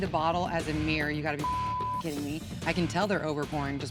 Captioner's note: beep